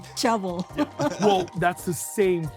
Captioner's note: everyone chuckles